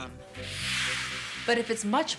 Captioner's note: whoosh